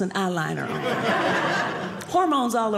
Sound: audience laughing

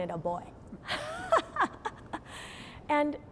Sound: laughing

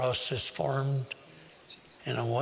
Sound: whispering

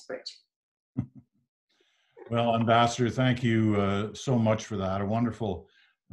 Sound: chuckles

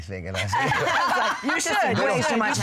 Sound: laughter

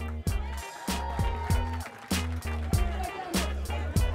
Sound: crowd cheering; hip hop music

